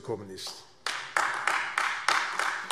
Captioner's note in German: Beifall AfD